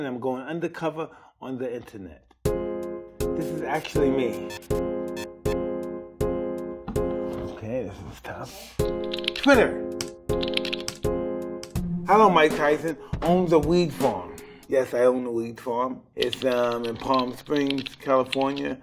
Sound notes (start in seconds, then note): 2.4 funky music; 10.0 typing